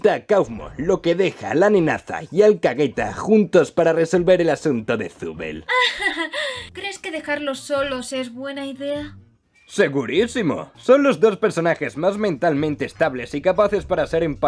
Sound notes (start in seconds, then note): 5.6 laughs nervously